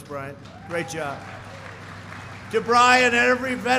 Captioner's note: applause